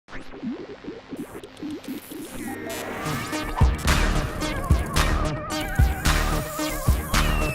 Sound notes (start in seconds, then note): 0.4 antenna transmitting electrical signals; 3.3 upbeat techno instrumental